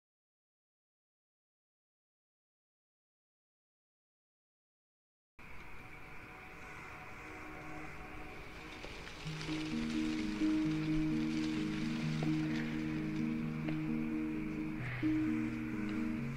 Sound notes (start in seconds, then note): none